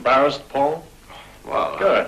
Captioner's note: sigh